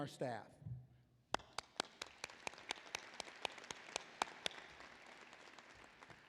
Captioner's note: applause